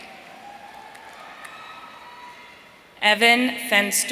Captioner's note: audience cheering